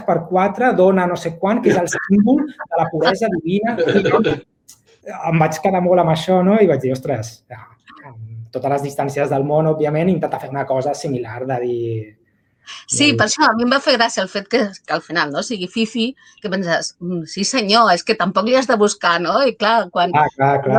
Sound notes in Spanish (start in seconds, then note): 3.7 risas